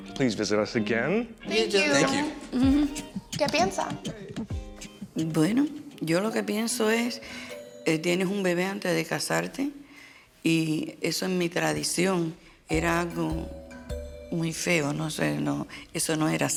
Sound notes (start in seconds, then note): 3.6 speaking Spanish